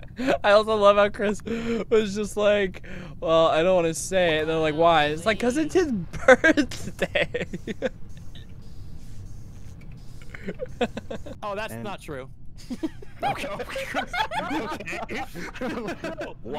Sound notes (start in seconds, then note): 0.0 laughter; 7.2 laughing; 10.3 laughter; 12.6 laughter